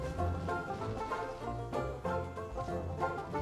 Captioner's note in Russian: Ом ном ном ном